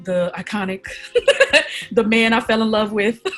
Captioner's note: laughs